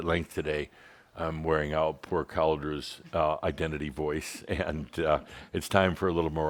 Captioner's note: Adamus chuckles